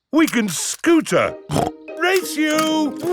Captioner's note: snorts